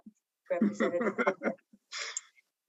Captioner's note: laughter